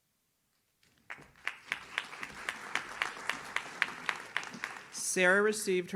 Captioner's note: audience claps